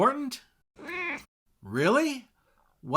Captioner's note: meow!